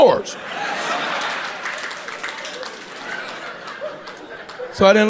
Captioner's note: audience laughing